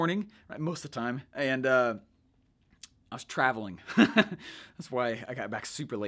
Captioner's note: laughs